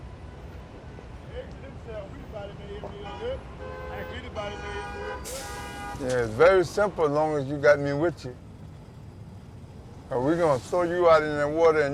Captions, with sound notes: [people chattering indistinctly on the street] [cars honking] - Yeah. It's very simple, as long as you got me with you. Now we're gonna throw you out in that water